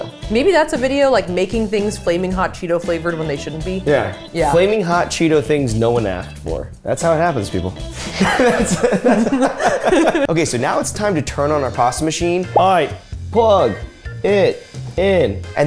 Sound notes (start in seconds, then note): 7.9 laughing